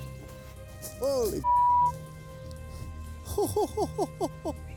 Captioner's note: beep